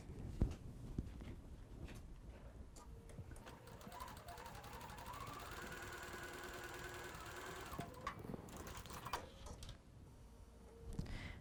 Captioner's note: sewing